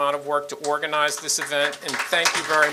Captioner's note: audience applauding